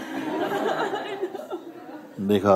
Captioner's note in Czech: smích